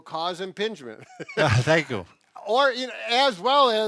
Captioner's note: both laughs